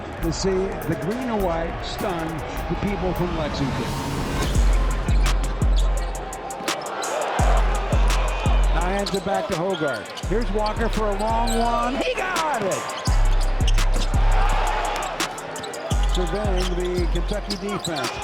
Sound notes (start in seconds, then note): 4.1 dramatic hip-hop music; 7.2 crowd cheering; 12.8 crowd cheering; 12.8 sneakers squeaking